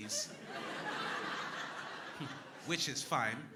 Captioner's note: crowd laughing